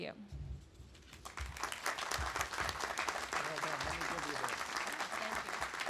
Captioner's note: audience applauding